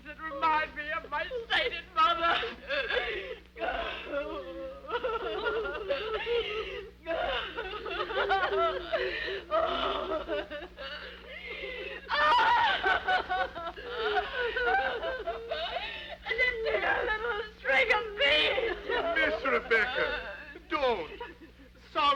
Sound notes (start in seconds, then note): 3.0 women sobbing